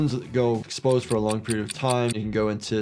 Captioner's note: clock ticking